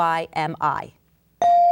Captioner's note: bell dinging